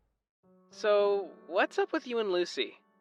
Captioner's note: phone vo